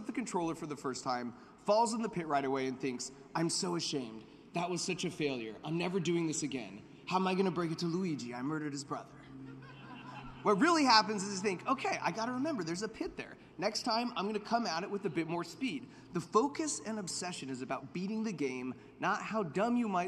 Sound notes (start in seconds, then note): 9.4 laughter